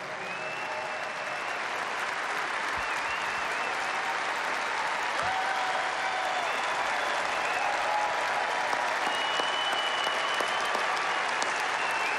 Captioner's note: applause